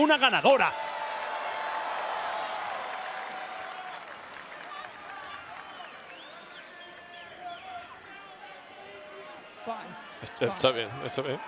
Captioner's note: applause